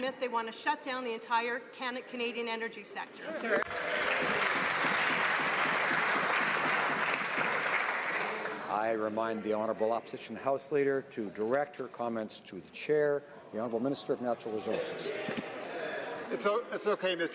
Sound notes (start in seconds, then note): 7.2 some Applause